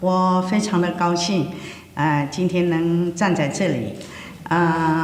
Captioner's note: speaking foreign language